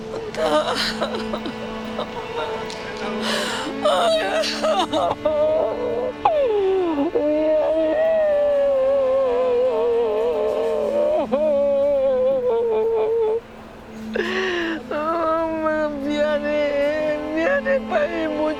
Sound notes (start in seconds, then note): 0.1 speaking Korean, sobbing; 4.6 sobbing; 6.9 wailing